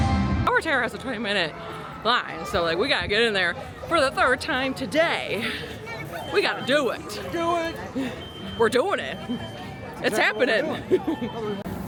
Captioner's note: laughs